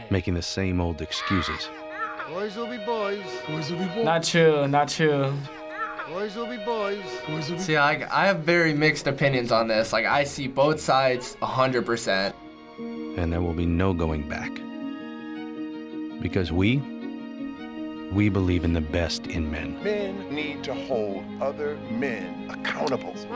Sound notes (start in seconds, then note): 0.2 voice-over; 13.0 voice-over